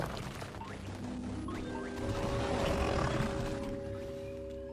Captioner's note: curious music plays; Kaufmo growls